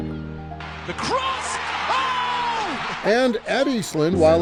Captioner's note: people cheering